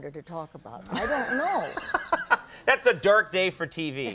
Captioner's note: laughing